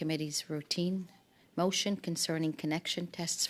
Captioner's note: speaking French